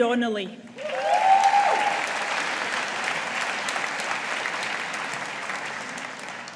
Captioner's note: audience applauding